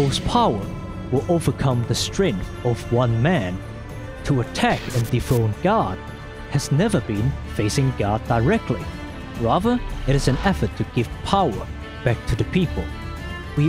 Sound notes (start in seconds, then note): none